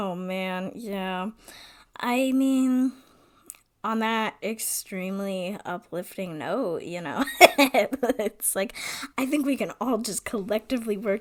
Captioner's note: laughs